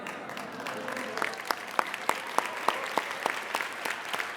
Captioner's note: applauding